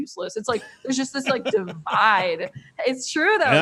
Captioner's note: laughing